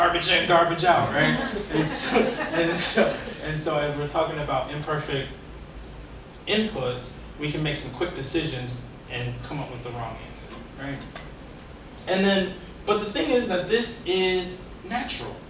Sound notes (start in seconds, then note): 0.9 audience laughing